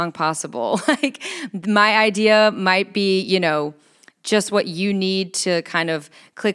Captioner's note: chuckles